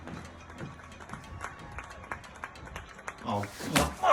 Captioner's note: distant applause